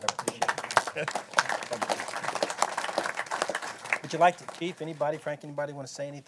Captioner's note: applause